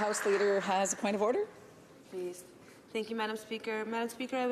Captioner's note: some Applause